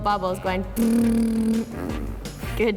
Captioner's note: blowing lips